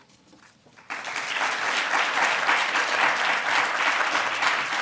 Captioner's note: audience applauding